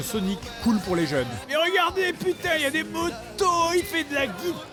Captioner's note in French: hystérique